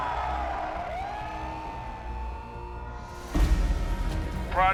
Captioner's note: crowd cheering